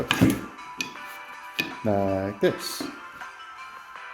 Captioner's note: wood banging gently